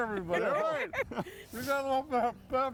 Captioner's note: all laughing